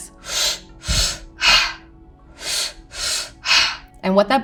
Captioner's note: breathes deeply